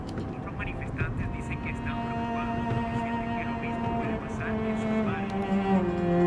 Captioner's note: radio